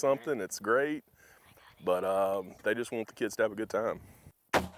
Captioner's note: whispers; gun fires